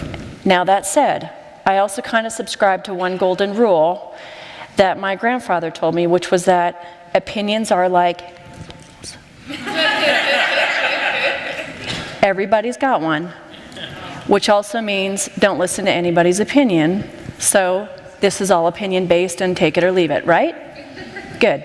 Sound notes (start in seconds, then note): 9.5 laughter